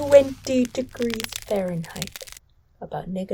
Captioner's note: ice crackling